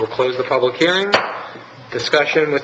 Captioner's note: gavel striking